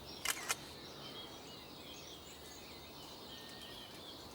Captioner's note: birds chirping; camera shutter clicking